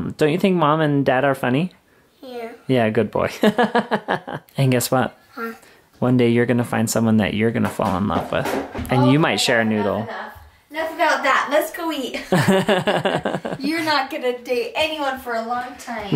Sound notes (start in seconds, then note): 3.9 laughs; 12.2 laughs